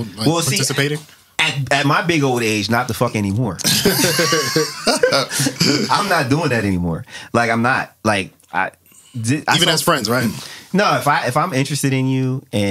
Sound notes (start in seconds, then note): 3.6 laughing